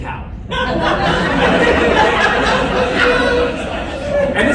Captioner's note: laughter